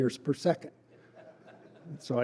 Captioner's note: laughter